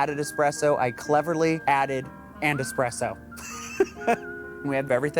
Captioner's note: laughs